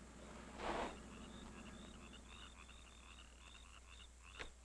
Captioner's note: frogs croaking